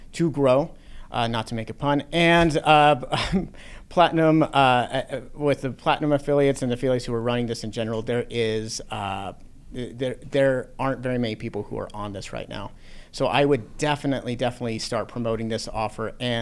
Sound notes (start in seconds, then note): 2.5 laughs